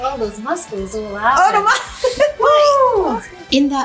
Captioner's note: laughing